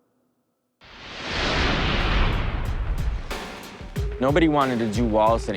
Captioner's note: intense whooshing